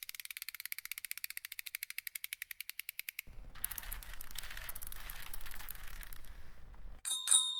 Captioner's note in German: Fahrradgeräusch